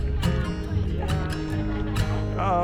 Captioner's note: laughs